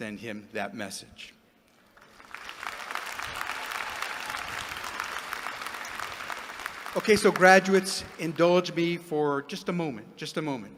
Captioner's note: applause